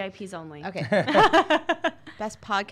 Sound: laughing

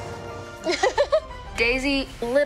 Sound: laughing

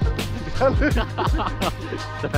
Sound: laughs

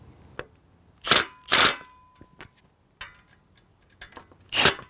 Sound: bolts tightening

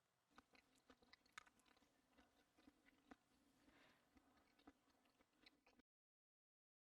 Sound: 식사하는 소리

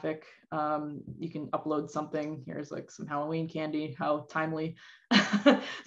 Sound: chuckle

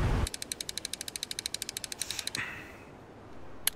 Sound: motor spinning

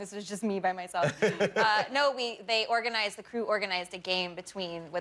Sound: laughter

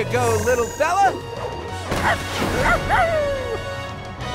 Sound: barking

